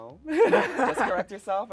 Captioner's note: laughs